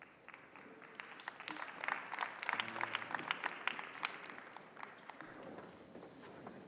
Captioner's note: applause